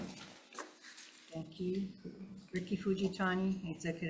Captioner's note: chairs grates